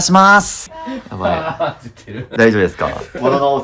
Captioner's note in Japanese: 笑い